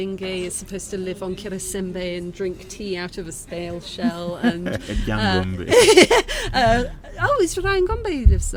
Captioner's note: laughing